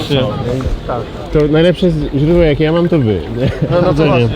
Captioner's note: laughter